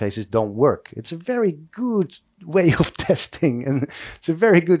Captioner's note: laughs